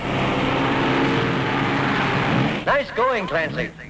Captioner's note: engine roaring